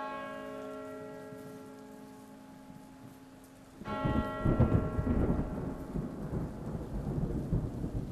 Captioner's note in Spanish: Sonido de Campana de la Iglesia Distant Thunder